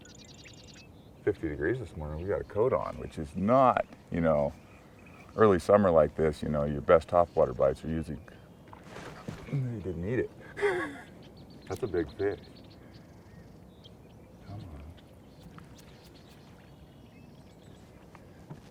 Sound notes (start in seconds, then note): 10.3 chuckling; 14.1 birds singing